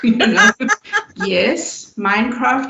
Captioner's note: laughter